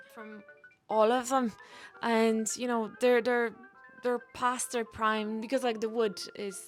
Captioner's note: none